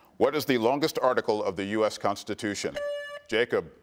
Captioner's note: buzzer beeps